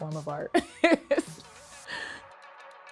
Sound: laughs

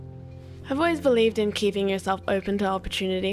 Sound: voiceover

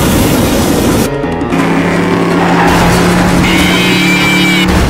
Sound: welding Sounds Intensive; car Engine Revving; car Crashing

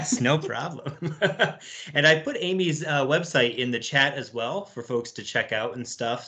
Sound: laughs

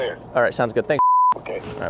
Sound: beep

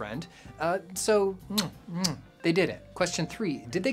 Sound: kiss sounds

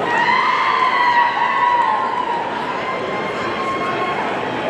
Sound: audience cheering

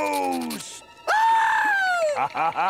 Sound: screaming; laughing

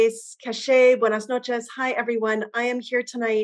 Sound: non-english speech

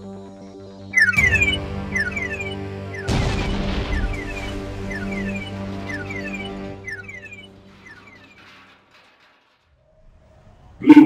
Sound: alien alarm

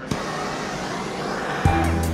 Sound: torch firing

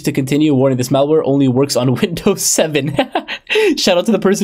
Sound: laughing

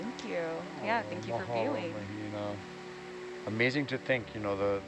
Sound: speaks foreign language

